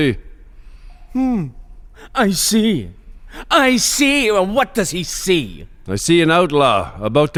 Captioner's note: mockingly